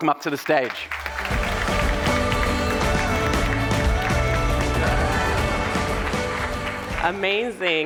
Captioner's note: audience applauding; upbeat music